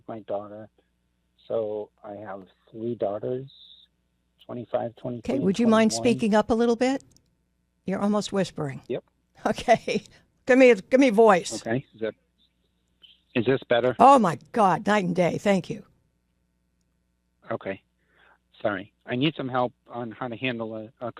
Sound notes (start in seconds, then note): 11.4 laughs